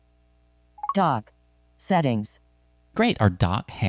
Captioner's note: automated Female Voice